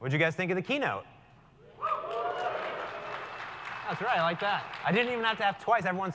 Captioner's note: applause